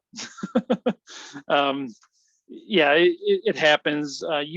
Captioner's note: laughs